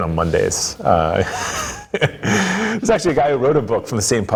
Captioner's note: laughing